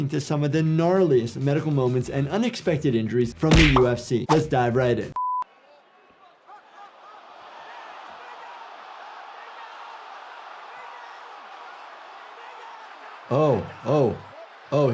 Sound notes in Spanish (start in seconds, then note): 5.2 pitido de pantalla; 6.3 la audiencia exclama; 7.0 locutor gritando